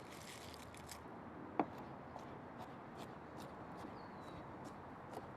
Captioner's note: chopping